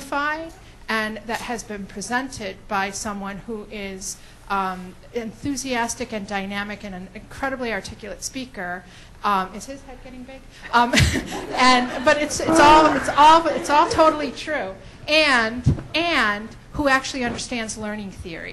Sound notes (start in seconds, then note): 10.7 laughs